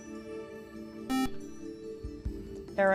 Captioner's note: beep